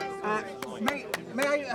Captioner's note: clapping